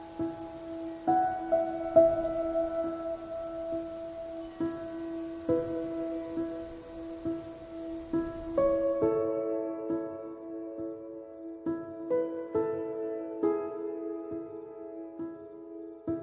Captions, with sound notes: (gentle music) "Listen to the wind and know I am near" (crickets chirping) (gentle music)